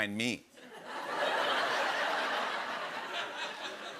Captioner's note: laughter